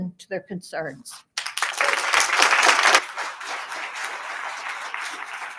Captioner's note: attendees applauding